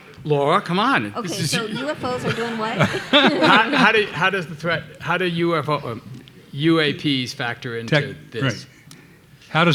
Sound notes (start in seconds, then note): 0.0 everybody laughing